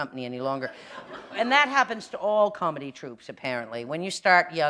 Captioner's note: laughter